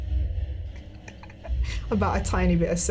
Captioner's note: laughing